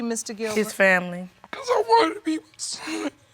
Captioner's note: sobbing